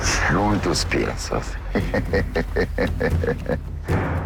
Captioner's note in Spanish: Risas